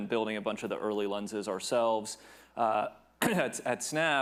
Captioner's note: clears throat